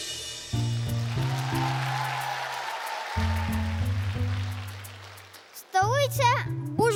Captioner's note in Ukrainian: оплески